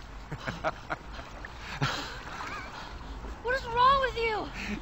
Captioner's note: Joel laughs